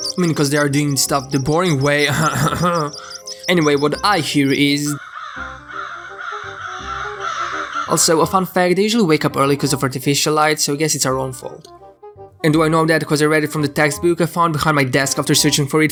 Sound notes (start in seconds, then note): 1.8 cough cough COUGH